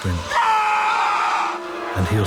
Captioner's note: screaming